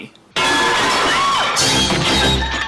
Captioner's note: scream